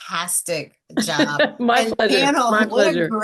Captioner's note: laughs